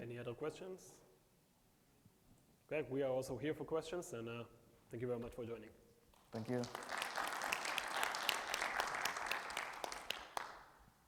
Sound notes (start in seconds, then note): 6.3 audience applauds